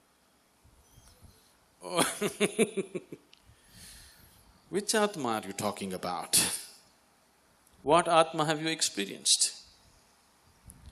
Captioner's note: laughs